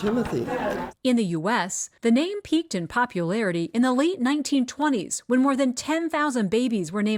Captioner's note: voice-over